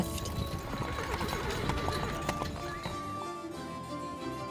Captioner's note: horse whinnying; upbeat music